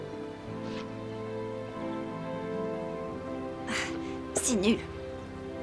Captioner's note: clears throat